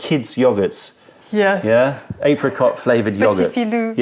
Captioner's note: french